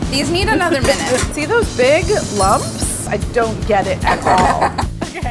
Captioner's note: laughter